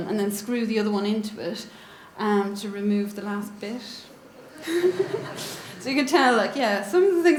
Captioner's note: audience giggles